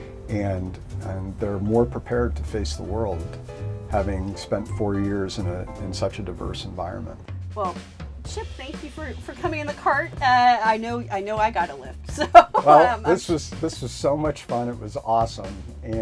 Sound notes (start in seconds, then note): 12.0 laughs